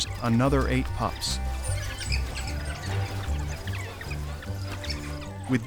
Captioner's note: pups yipping